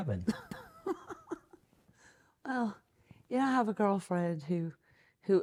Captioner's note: laughs